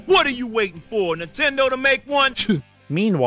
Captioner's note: scoffs